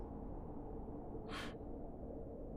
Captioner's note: sigh